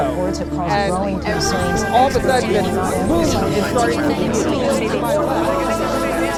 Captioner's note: increasing noise from various news reports